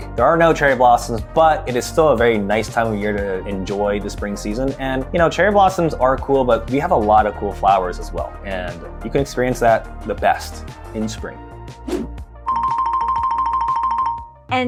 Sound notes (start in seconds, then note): 11.8 scene whooshing; 12.5 bell tolling